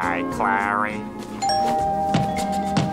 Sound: doorbell ringing

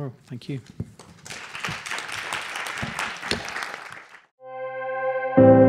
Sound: applause

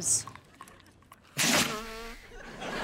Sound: blowing nose

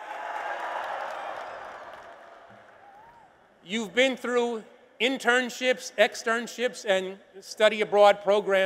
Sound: applause and cheers

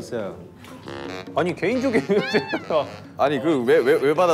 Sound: Avatars bursts out laughing

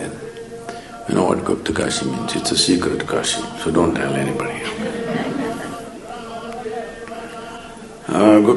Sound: laughter

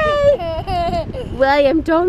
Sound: baby screaming and laughing

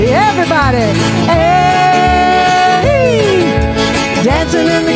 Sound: yelling

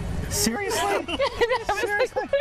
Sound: laughter

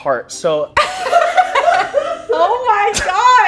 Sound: girls laughing

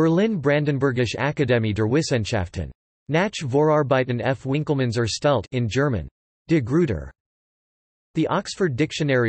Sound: in German

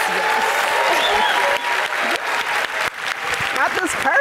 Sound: audience applauding

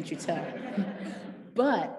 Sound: parents laughing

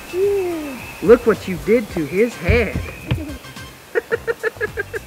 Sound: laughing

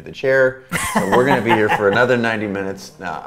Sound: A.J. laughs

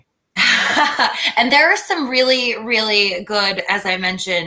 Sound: laughter

